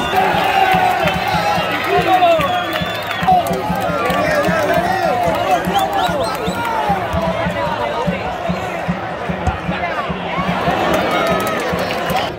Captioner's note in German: Beifall